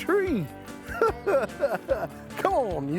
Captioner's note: chuckling